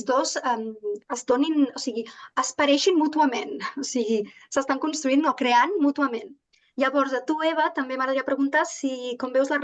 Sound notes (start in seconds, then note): 2.0 continues speaking in Catalan